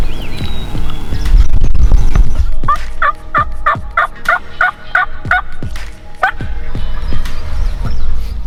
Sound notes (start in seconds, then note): 2.6 turkey call clucking